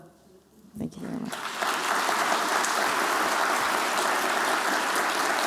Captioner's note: non-english speech; applause